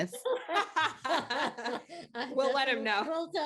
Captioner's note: chuckling